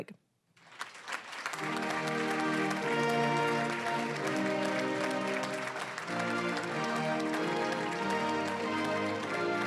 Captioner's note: applause